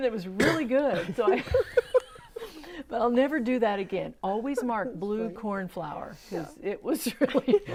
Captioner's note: laughing